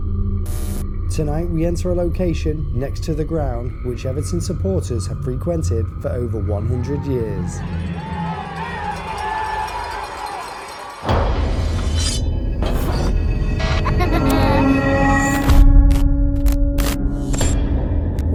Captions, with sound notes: Tonight we enter a location next to the ground which Everton supporters have frequented for over 100 years. (shouting) (suspenseful music) (eerie music)